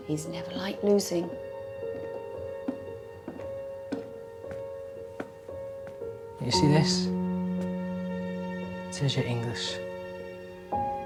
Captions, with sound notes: He's never liked losing. (footsteps clacking) (gentle music continues) - Do you see this? It says you're English.